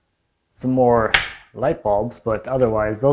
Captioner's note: switch clicking